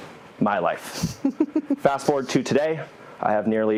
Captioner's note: laugh